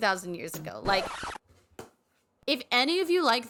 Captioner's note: record scratch